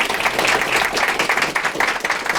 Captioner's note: applause